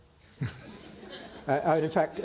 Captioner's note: audience laughing